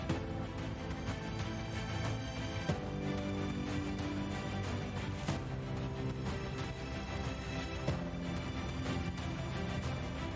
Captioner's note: applause